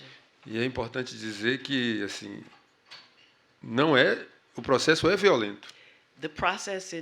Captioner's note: speaking portuguese